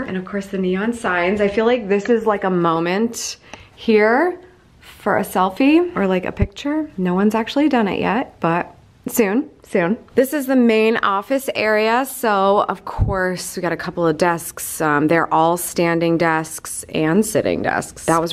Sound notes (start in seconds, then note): none